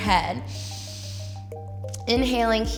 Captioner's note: inhales